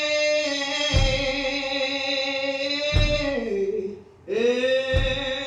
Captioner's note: feet stomping